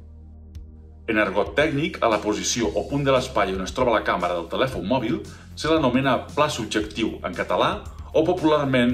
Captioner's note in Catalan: en català